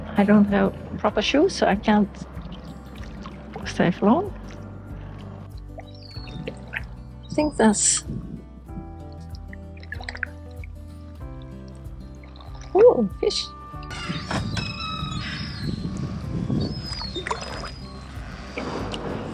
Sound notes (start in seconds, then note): 8.0 seagul screaming, Music; 17.3 music, sound of beaching the kayak, seagulls and putting the paddle in place